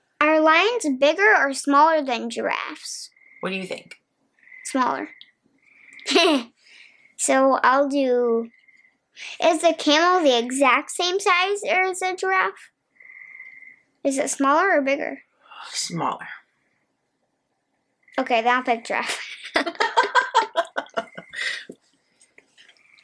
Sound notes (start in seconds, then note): 6.0 chuckles; 19.2 laughing; 19.3 chuckles